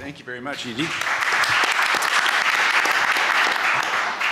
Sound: applause

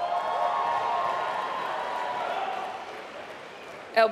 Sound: applause

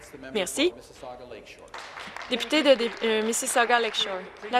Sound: some Applause

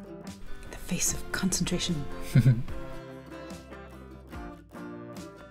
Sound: laughter

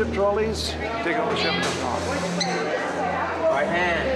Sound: overlapping chatter

